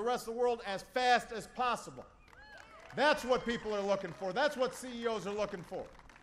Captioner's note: applause